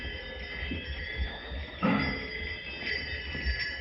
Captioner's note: bells jingling